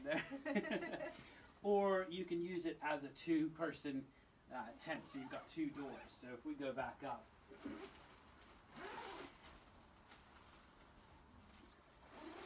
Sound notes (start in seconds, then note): 0.0 both laugh; 8.7 zipper zips